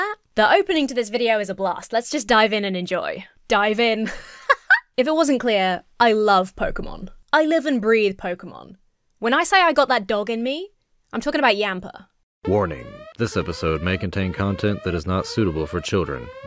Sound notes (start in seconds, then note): 4.0 laughs; 12.4 alarm blares